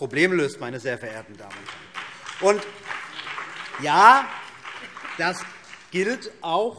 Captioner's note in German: Beifall BÜNDNIS 90/DIE GRÜNEN und vereinzelt CDU